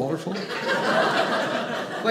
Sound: audience laughing

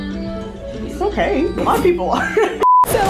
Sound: laughs; beeps

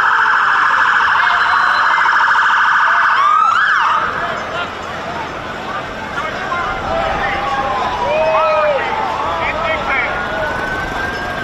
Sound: sirens

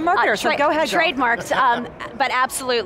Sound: laughs

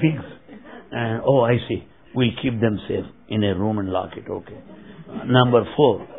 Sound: laughter

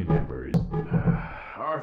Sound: sigh

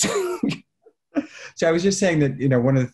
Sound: laughing

